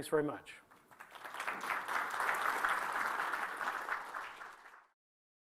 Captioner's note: applause